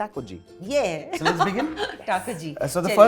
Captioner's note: chuckles